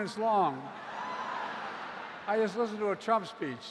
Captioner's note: laughter